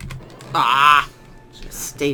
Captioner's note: or other anime grunting sound idk